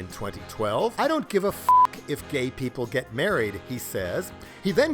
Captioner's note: beep